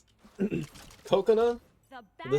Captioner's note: ahem